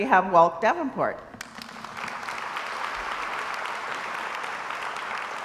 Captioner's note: crowd applauds